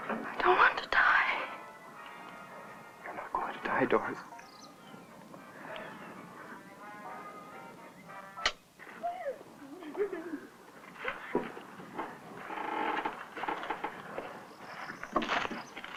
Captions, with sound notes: I don't want to die. - (whispering) You're not going to die, Doris. (Judy giggling)